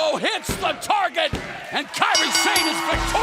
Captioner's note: bell ringing